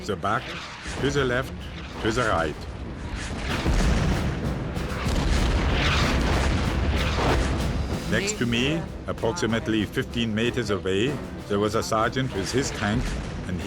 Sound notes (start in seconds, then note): 4.0 shells exploding